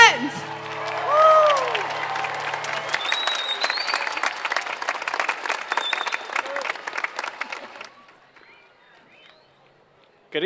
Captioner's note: applause